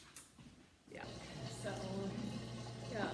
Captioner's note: dishwasher running